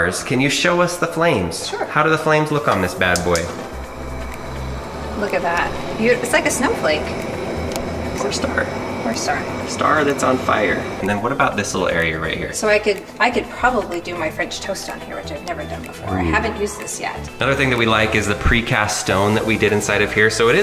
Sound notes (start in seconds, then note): 3.9 gas clicking; 3.9 gas roaring